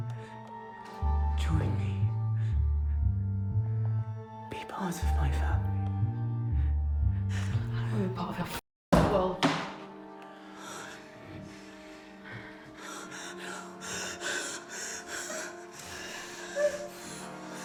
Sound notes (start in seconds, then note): 14.1 Miss. Fang crying